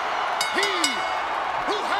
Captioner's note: audience cheers; bell rings